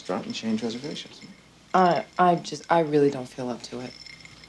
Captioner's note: ice clinking